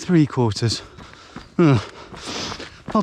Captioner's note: slightly disappointed grunt